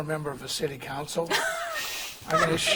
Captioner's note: laughing